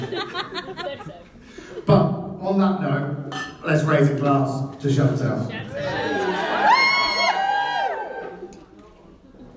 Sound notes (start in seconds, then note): 5.7 whooping and cheering